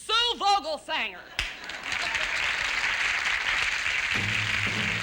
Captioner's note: applause